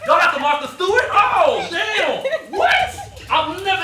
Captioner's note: laughing